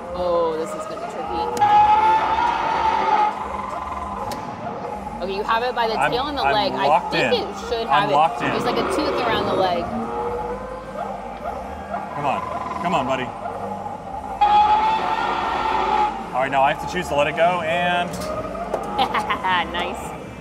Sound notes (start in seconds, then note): 1.4 dinosaur roaring; 1.7 button thuds; 10.5 dinosaur roaring; 14.4 dinosaur roaring; 18.4 dinosaurs toy thuds; 18.8 laughs